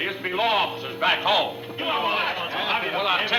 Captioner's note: group clamoring